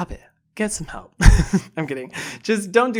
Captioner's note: laughs